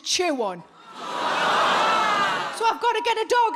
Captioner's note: audience jeering